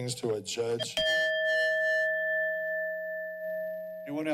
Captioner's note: bell rings